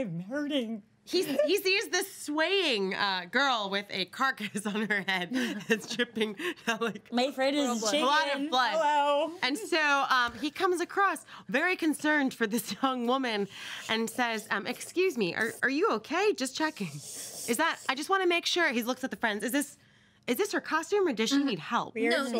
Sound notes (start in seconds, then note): 6.1 laughs